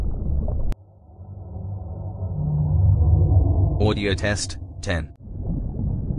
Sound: eerie ethereal transitional SFX

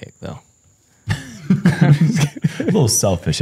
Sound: laughs

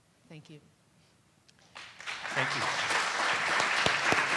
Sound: applause

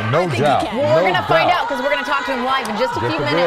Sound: cheers and applause

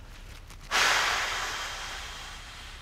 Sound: exhales loudly

